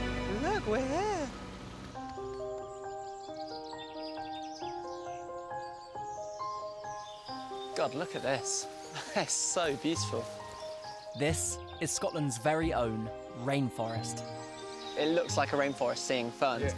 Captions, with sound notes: Look, we're here. (birdsong) (serene music) God, look at this. It's so beautiful. This is Scotland's very own rainforest. It looks like a rainforest, seeing ferns.